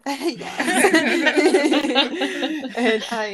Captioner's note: laughing